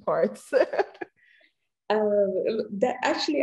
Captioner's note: chuckles